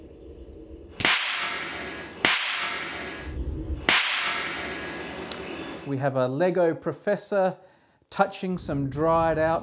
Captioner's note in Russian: Взрыв